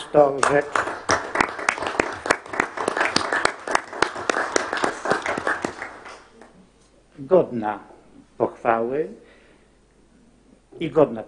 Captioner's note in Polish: oklaski